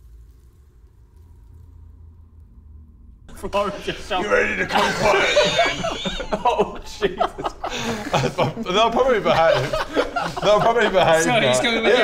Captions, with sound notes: *intimidated silence* ...floor of your shop You ready to come quietly then? Oh Jesus Christ... They'll probably behave... They'll probably behave now